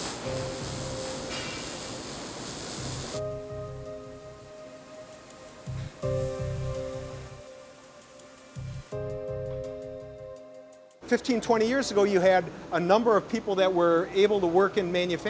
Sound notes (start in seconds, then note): 2.5 fire hissing; 2.7 soft dramatic music